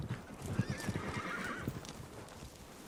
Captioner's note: horse neighing